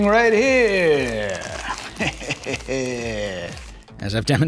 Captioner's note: laughs